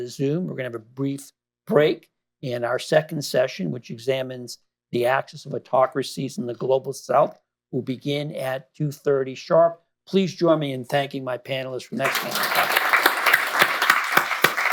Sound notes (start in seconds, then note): 11.9 applause